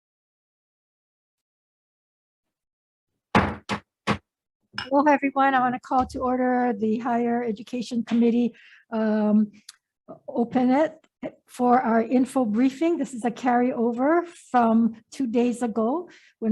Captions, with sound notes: (gavel thuds) - Hello, everyone, I want to call to order the Higher Education Committee, open it for our info briefing. This is a carryover from two days ago